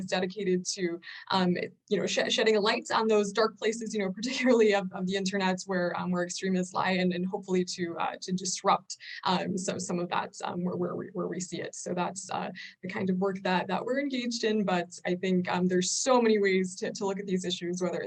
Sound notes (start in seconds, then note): none